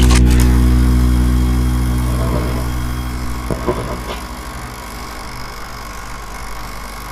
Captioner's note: camera shutter